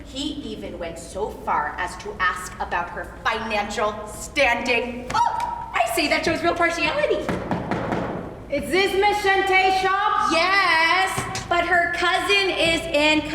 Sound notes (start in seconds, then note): 7.2 knocking